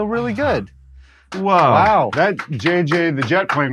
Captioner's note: clapping